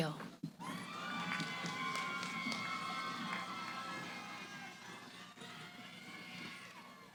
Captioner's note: cheering